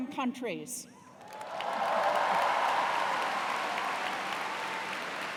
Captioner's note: cheers and applause